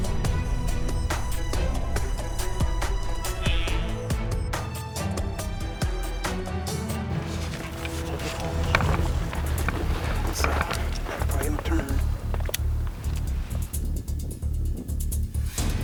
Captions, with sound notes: (suspenseful music) (rocks crunching underfoot) - It's ah, right on turn.